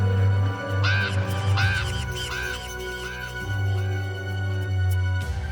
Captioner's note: raven cawing over echoing electronic tones; eerie orchestral music